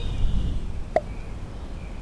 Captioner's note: pop